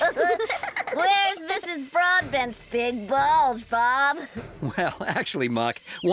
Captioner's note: giggling